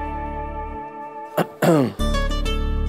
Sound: clears throat

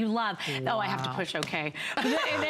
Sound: laughter

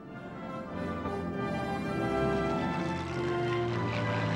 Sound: planes zooming

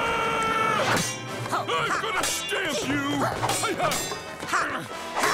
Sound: screaming; grunting

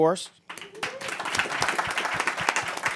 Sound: applause

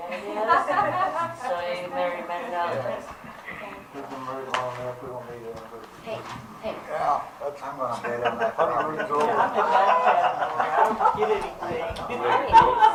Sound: laughter

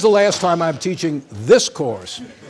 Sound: laughter

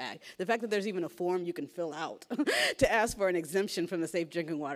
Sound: laughs

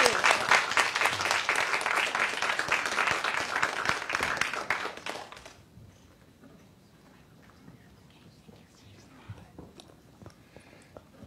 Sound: applause

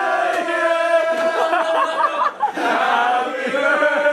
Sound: laughing

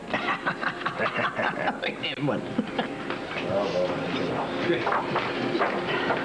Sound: Rires

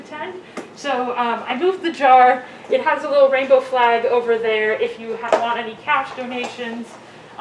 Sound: none

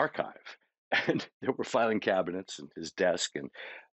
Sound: chuckling

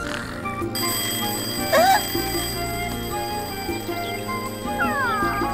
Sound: alarm clock blaring

